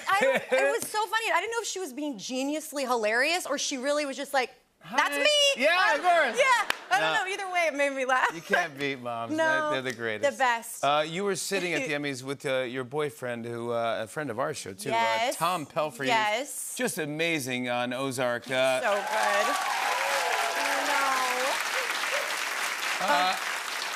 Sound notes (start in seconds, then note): 0.0 laughter; 18.8 cheers and applause